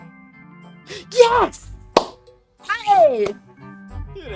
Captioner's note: clap